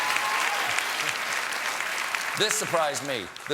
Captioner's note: applause